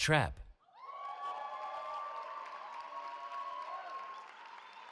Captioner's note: cheering